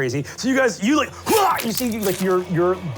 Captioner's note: stabbing